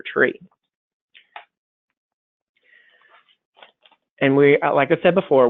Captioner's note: silence